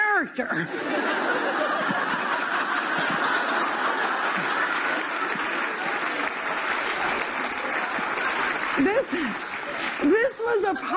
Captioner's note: laughter; applause